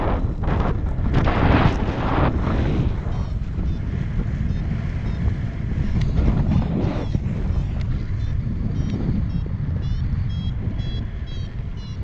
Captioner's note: wind